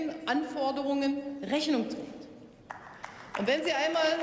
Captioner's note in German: Beifall